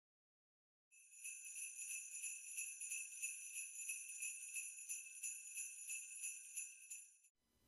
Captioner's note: sleigh bells